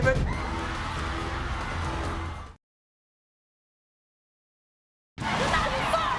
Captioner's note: dramatic music; crowd roaring